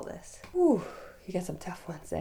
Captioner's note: sighing